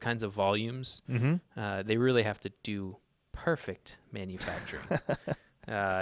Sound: laughs

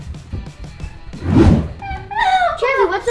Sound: air whooshing; laughing

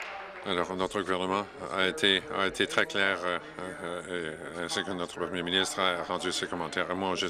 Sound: applause

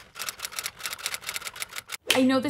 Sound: keyboard typing

